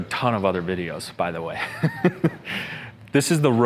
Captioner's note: laughs